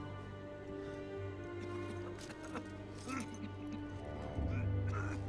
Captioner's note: coughing